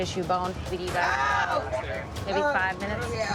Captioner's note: screams